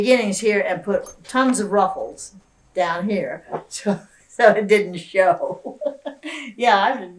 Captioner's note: laughs